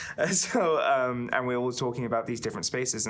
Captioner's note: chuckling